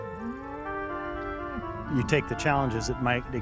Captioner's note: cow mooing